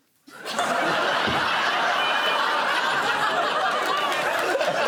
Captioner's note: laughter